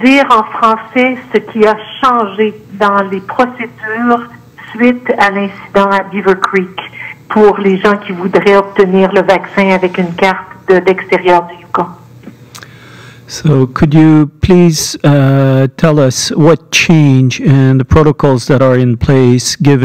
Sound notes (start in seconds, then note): 0.6 speaking French